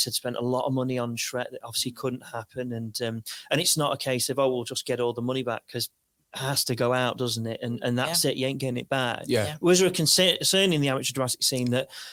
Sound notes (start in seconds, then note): none